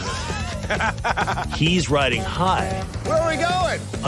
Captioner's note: laughs